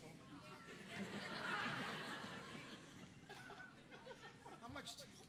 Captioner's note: audience laughing